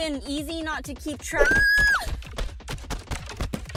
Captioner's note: screaming